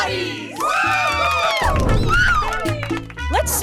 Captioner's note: cheering